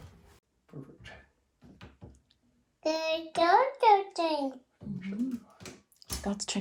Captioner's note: Jojo chattering